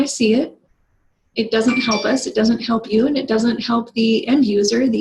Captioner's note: phone chirps in background